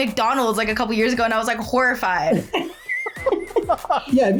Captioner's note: both laugh